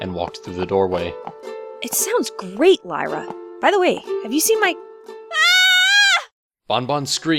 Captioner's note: scream